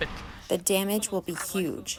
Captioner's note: through translator